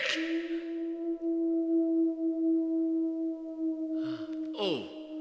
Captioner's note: wolves howl again